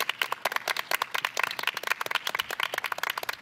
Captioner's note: applause